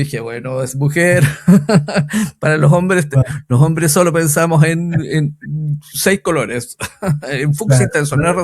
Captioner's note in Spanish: risas